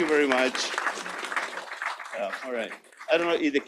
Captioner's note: applause